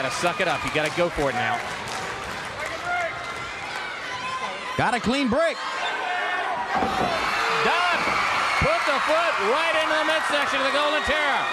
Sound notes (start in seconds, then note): 7.3 crowd cheering